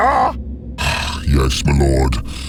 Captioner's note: Royal sighs